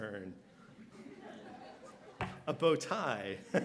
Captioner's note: laughter